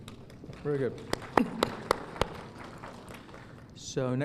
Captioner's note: applause